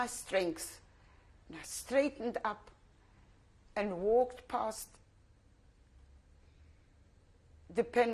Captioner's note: pauses for 3 seconds